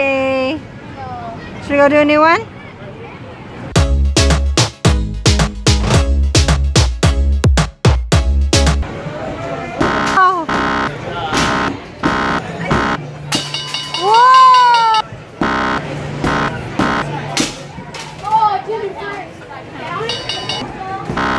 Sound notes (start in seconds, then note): 3.7 upbeat music; 10.4 buzzer; 13.5 bell; 15.4 buzzer; 21.1 buzzer